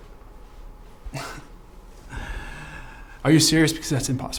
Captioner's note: Jack chuckles